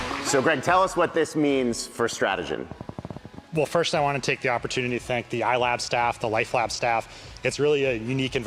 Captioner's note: applause